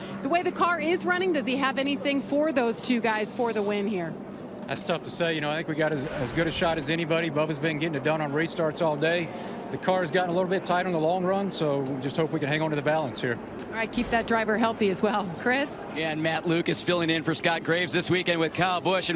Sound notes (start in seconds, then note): 5.8 engine revving